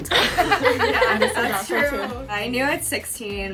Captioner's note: everyone laughing